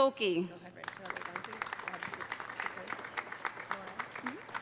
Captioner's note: audience applauding; audience cheering